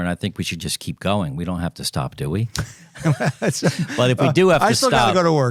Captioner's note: laughing